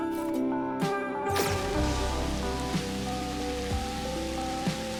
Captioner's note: laser sizzling